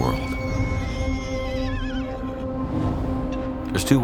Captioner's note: horse whinnies